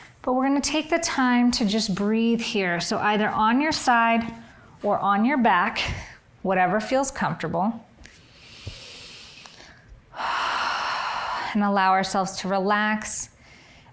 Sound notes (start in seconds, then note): 10.1 breathing deeply